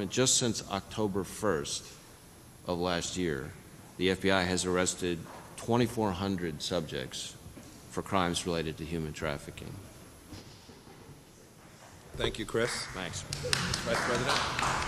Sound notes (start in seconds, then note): 10.7 applause